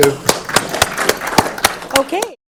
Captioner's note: audience applauding